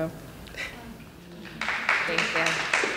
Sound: applause

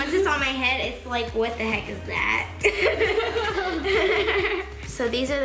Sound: laughing

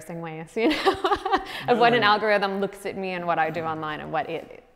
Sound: laughs

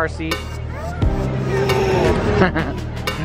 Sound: baby coos; laughs

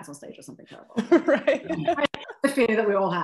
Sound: laughter

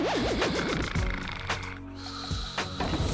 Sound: snoring

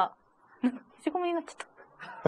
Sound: laughs

